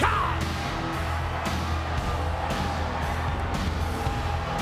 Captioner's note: upbeat music continues; audience cheers